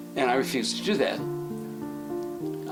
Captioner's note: none